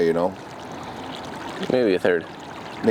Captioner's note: water splashing